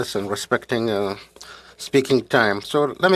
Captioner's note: speaking French